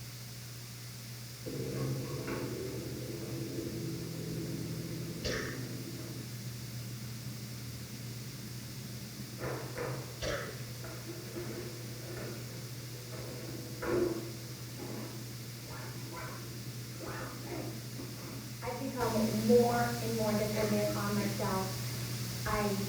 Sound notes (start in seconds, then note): 1.9 machine roars